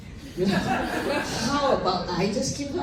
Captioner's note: laughter